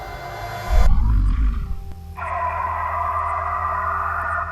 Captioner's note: low growling